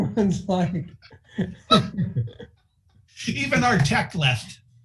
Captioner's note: laughing